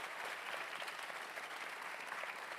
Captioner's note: cheers and applause